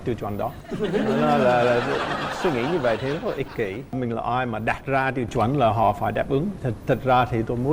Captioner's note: laughing